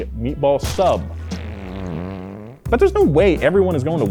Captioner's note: farting